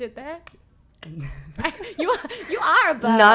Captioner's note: laughing